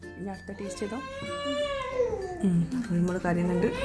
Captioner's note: baby crying